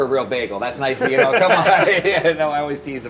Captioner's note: laughs